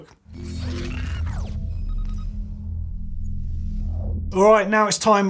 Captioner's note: zooming and beeping